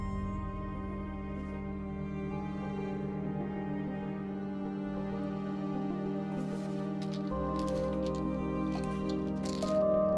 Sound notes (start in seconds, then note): 6.4 pills rattling